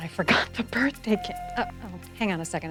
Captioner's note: phone beeps